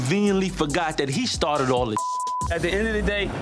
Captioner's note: beep